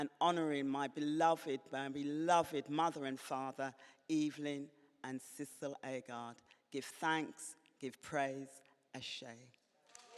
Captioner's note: cheers and applause